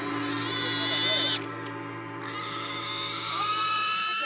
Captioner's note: pig shrieking continues